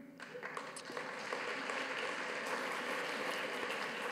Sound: audience claps

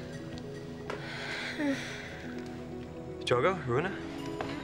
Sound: Aruna sighs

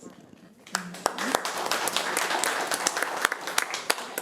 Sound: applause

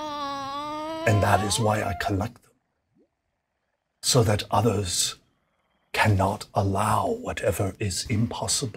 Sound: door creaks

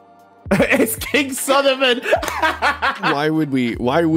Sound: laughs

